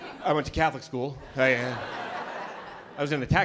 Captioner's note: laughter